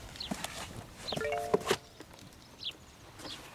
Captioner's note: phone chimes